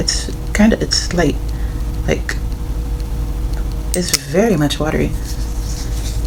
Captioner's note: sniffing sounds